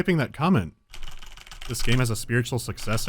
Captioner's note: hectic typing